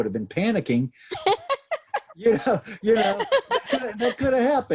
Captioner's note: laughs